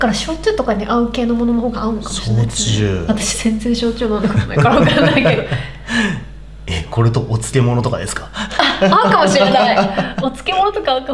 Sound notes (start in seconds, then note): 4.1 laughs